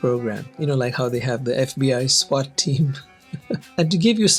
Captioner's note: chuckles